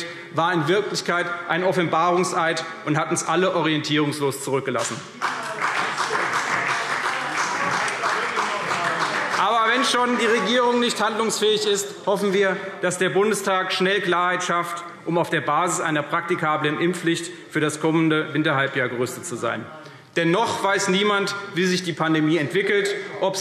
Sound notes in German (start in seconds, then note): 5.1 Beifall CDU und BÜNDNIS 90/DIE GRÜNEN